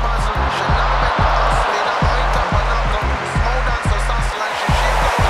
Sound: crowd cheering

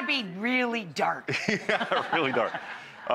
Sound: laughing

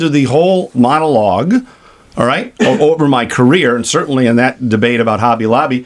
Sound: CRAIG laughs

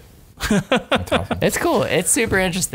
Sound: laughter

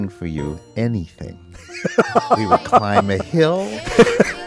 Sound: laughs

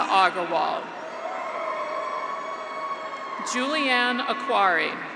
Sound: graduates cheer

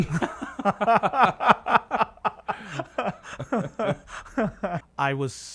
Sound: laugh

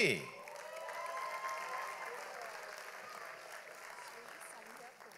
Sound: audience applauds

